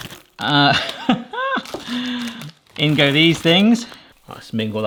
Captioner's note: laughs